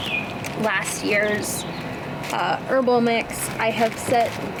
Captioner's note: bag crinkles